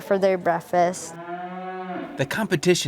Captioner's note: cow moos